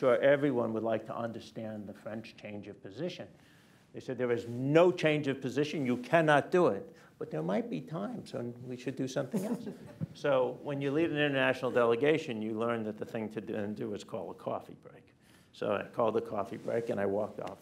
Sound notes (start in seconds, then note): 9.4 laughter